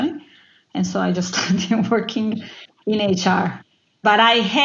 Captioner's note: laugh